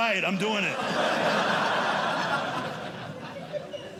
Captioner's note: audience laughing